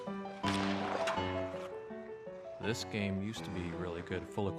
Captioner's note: narrating